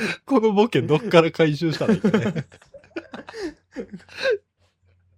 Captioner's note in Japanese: 笑い